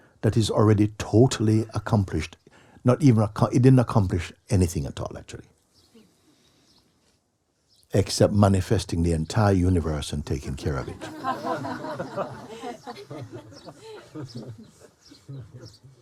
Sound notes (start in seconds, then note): 10.8 laughter